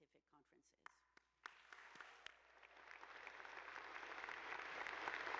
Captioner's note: attendees applauding